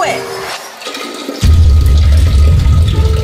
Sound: urinating sound

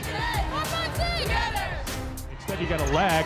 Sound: chanting

